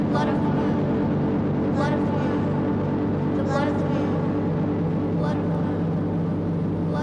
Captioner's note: chanting